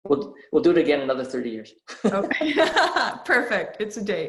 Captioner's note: laughs